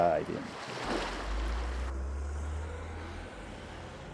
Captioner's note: ocean wave crashing